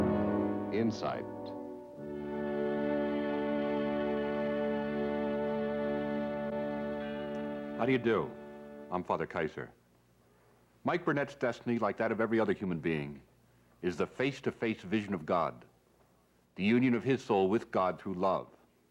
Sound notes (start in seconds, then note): 0.0 theme music; 0.6 announcer, over music; 2.1 theme music